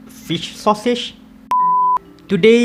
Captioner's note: beep